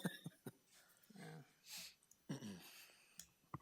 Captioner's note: person laughing